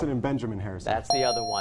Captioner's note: ding